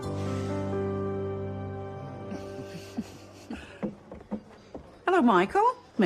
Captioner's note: sighs